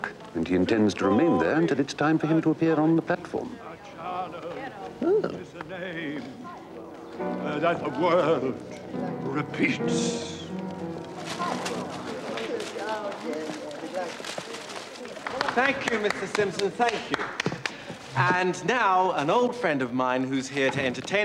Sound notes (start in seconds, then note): 10.3 audience murmurs impatiently